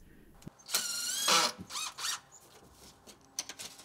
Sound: drill whirring

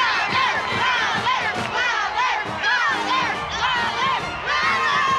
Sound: women cheering

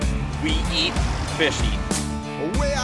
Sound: voiceover

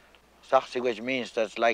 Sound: speaking in foreign language

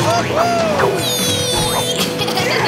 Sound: laughing

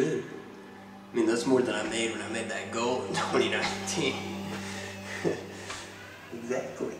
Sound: laughs

